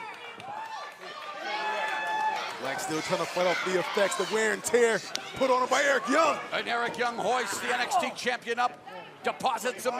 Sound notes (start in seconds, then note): 3.3 crowd cheering